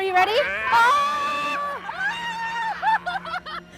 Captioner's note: screams